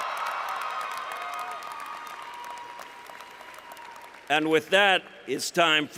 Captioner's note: cheering